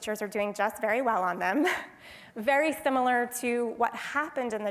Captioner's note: laugh